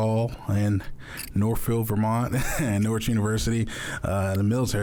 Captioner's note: chuckles